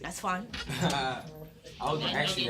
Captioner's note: students murmur